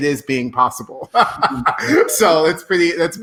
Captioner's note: laughing